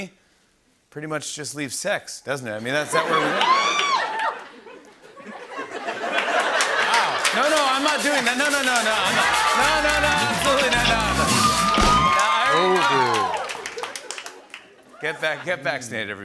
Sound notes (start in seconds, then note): 2.8 laughter; 4.4 laughter and applause